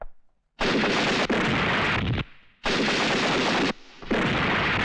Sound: explosion

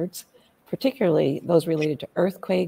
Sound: none

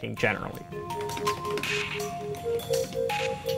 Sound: furious keyboard clacking

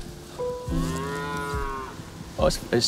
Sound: cows mooing

